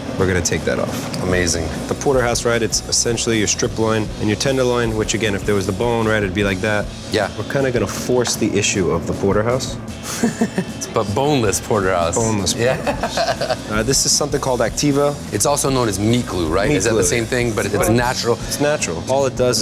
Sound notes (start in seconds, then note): 10.0 laughter; 12.6 laughter